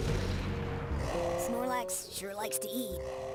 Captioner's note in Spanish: ronca